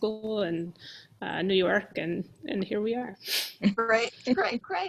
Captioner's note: chuckles